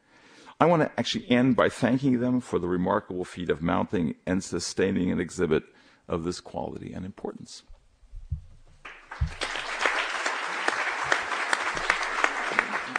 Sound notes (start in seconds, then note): 8.8 applause